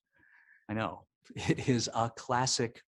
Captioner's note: chuckling